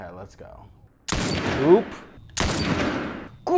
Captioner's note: gun firing